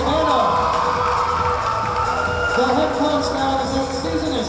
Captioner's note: cheering; clapping